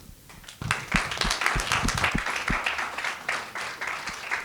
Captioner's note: attendees clapping